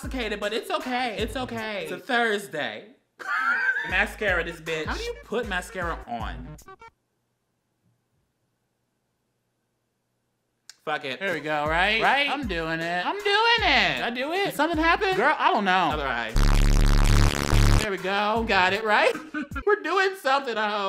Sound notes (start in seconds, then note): 16.3 buzzing